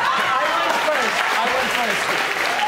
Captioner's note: audience applauding